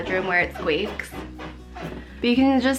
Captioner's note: squeaking